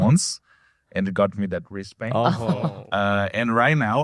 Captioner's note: laughs